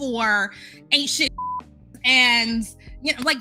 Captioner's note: beep